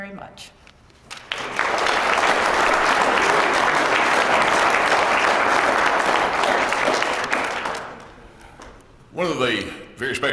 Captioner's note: applause